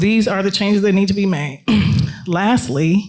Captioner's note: clears throat